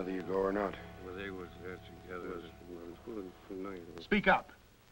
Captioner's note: mumbling